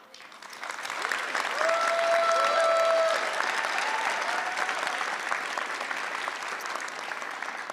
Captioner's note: applause